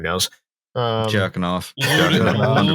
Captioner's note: laughter